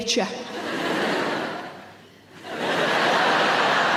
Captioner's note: audience laughs